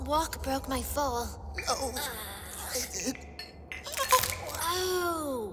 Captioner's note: bones cracking